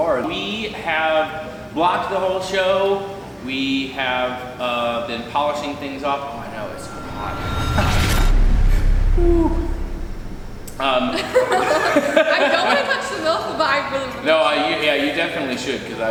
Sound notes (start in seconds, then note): 9.2 exhaling dramatically; 11.2 laughing